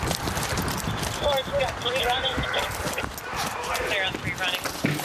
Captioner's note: indistinct shouting